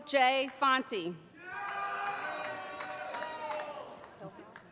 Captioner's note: applause